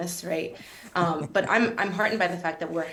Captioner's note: laughs